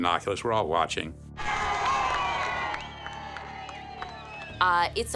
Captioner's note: crowd cheering